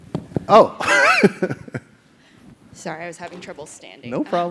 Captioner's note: laugh